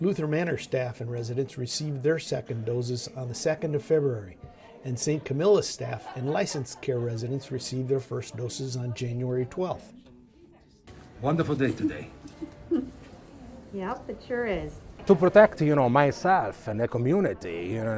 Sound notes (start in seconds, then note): 11.8 woman laughs